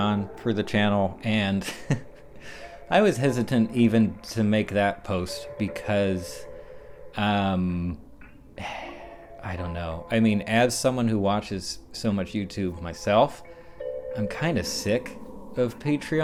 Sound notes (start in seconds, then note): 1.4 laughs; 8.6 sigh